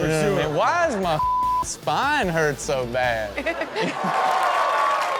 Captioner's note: beep; audience cheering